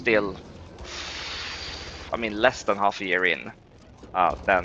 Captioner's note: exhales sharply